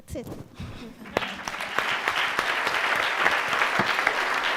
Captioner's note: crowd applauds